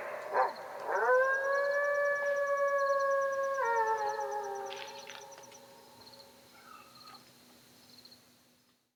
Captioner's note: the sound of nearby howling